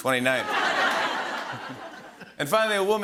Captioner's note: laughter